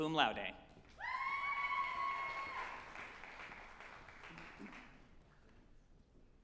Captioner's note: group applauding and cheering